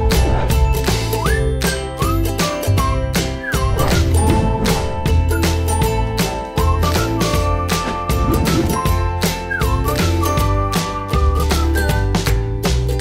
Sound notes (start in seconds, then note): 0.2 air whooshing